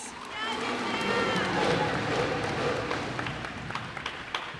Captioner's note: cheers and applause